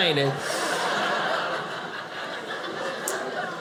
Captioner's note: audience laughing